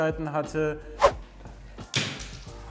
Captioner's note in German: woosh